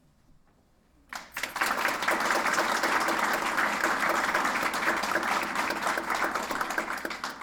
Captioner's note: applause